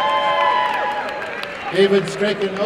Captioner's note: applause and cheering